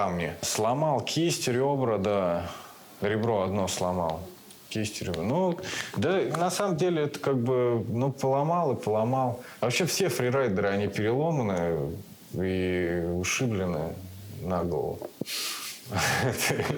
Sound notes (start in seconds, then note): 15.9 laughs